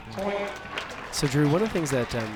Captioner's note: crowd cheers